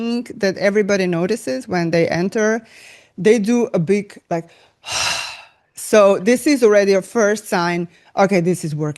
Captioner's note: sigh